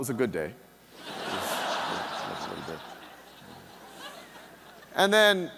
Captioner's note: audience laughing